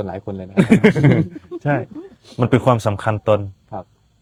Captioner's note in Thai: เสียงหัวเราะ